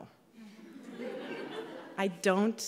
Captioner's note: laughing